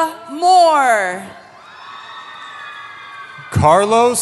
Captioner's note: cheering